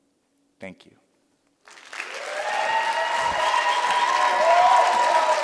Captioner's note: cheers and applause